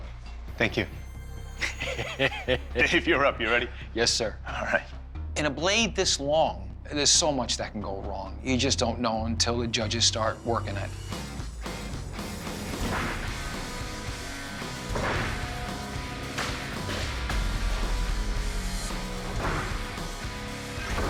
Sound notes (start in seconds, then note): 1.6 chuckling; 11.1 intense musical buildup; 12.8 rock music